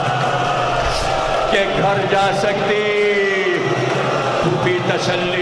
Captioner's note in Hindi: चीखने की आवाज़